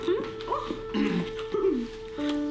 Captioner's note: clears throat